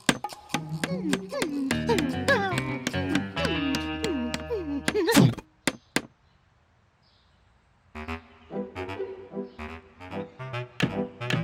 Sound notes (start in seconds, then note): 0.6 whimpering